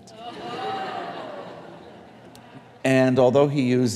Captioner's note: audience laughing